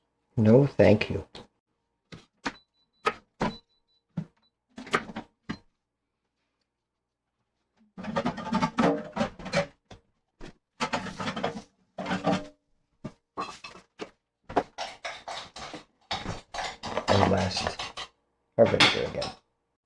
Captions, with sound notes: No thank you. [Knife cutting] And last, our vinegar again.